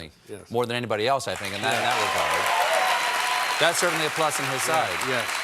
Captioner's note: cheers and applause